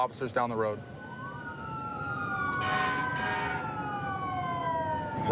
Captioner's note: emt sirens blaring